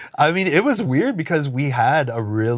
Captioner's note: laughs; Ian snorts